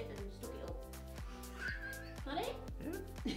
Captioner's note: giggle